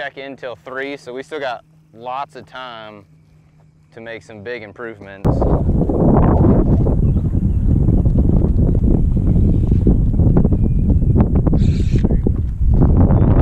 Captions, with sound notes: so we still got lots of time to make some big improvements. (wind blowing loudly)